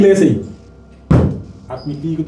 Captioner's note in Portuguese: thud